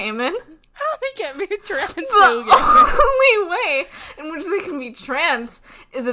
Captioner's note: laughing